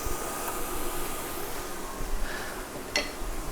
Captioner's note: sizzling